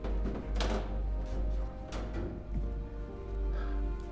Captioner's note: footsteps